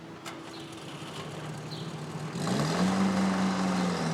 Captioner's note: engine starts